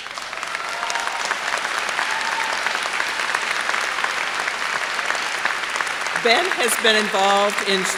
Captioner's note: applause